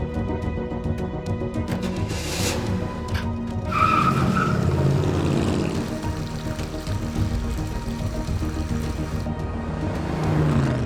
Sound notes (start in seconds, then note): 3.9 tires squealing; 7.0 water running